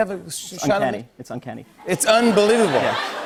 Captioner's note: laughter